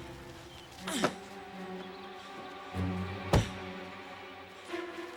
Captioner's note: Susan grunts